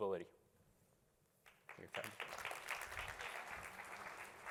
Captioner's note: applause